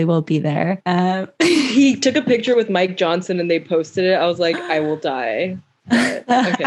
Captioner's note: laughs